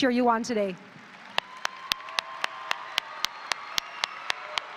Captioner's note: audience applauding